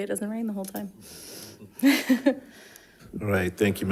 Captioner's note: participants laughing